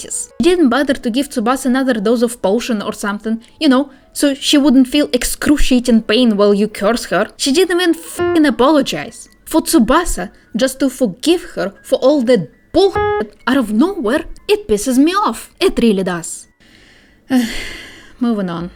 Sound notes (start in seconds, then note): 16.5 exasperated sigh